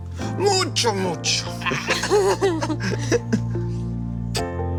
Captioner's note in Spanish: Risas